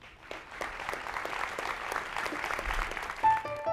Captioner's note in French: Applaudissements